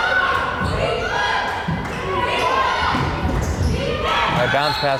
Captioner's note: crowd chanting defense